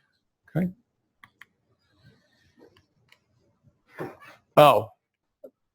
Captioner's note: pause